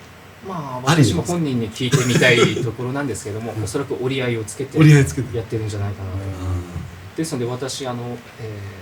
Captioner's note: laughs